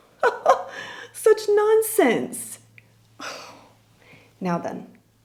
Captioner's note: laughs; sighs